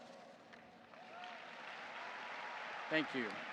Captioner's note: audience applauding